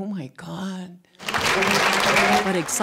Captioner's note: cheering and applause